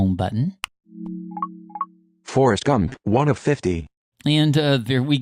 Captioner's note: remote beeps